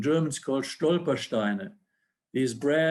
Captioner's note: speaking foreign language